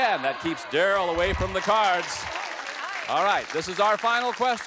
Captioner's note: applause